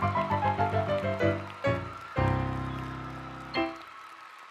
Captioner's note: applause